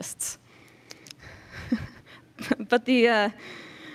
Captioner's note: chuckles